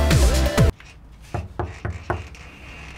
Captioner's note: knock on door